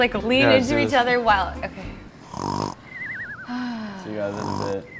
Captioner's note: snoring